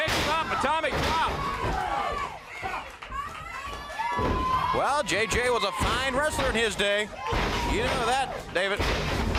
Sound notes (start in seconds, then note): 1.5 crowd chatter; 7.4 crowd chatter; 8.3 crowd cheering